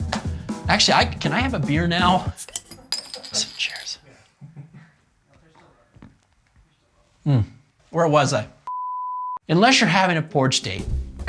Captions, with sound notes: Actually, can I have a beer now? (bottle cap opening) Cheers! Mm, where was I? (tone beeping) Unless you're having a porch date,